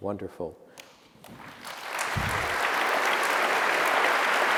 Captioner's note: applause